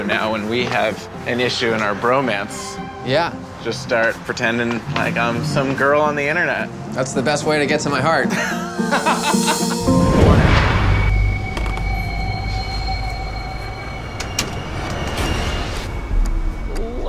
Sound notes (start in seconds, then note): 8.2 laughing; 12.8 suspenseful instrumental music